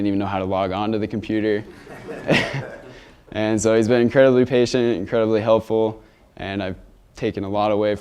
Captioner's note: laughter